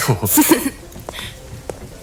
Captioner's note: laughs